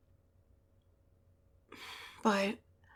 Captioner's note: sigh